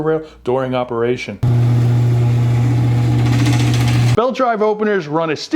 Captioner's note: chain drive opener being loud